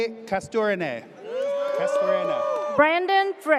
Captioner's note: audience cheers